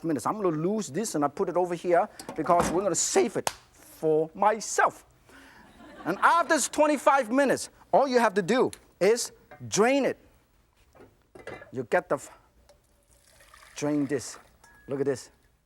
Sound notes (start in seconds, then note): 5.6 audience laughs